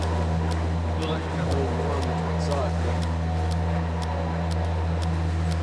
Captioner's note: people chattering